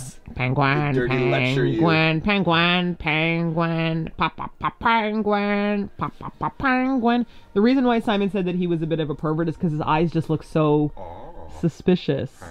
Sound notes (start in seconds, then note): 0.3 nasally voice; 11.9 penguin makes "oh-ho-ho" noises